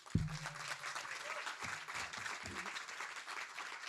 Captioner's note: audience claps